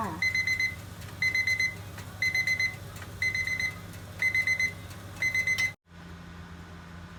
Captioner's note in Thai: เสียงนาฬิกาจับเวลาดัง